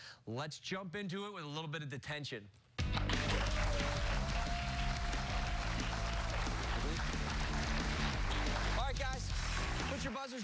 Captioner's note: cheers and applause